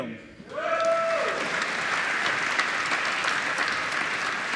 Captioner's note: applause